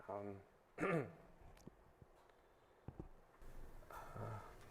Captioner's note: clears throat